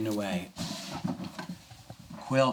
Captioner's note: opening drawer